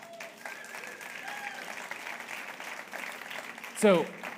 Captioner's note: audience cheering and applauding